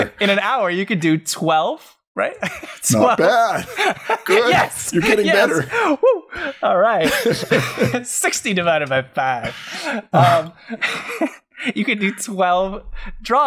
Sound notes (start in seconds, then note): 2.4 laughs; 10.0 laughter